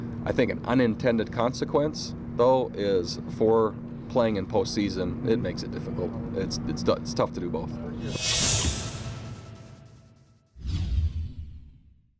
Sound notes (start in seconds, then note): 7.8 whoosh